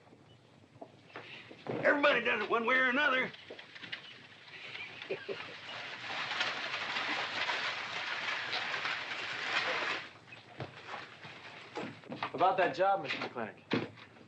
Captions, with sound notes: - Everybody does it one way or another! (scoffing) (buggy rattling) - About that job, Mr. McLintock.